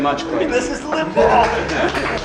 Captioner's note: panelists clap